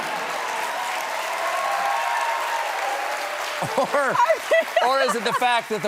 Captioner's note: cheers and applause